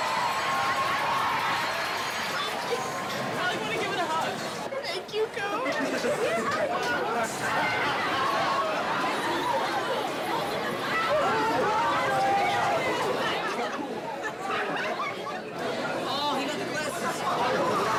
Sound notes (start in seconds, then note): 0.0 students cheering; 7.7 background chatter; 17.7 background chatter